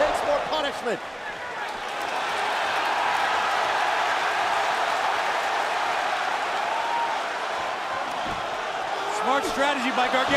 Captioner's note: crowd cheering